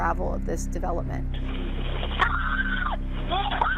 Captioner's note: footsteps on gravel; screaming